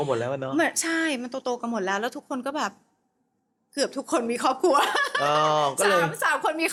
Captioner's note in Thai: เสียงหัวเราะ